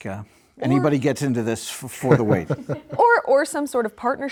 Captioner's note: laughter